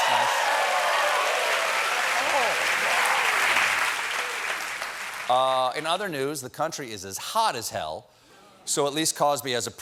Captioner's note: cheers and applause